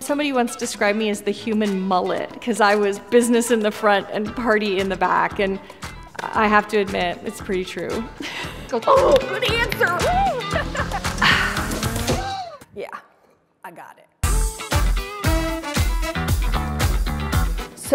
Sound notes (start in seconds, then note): 8.2 laughs; 10.1 sighs; 10.5 laughs; 14.2 energetic music continues